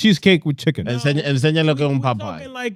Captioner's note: speaking In Foreign Language